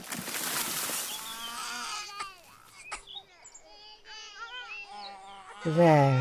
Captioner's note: babies crying